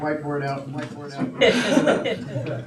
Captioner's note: audience laughing